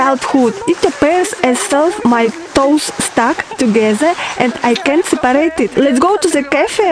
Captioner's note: laugh